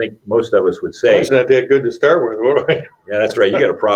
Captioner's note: laughs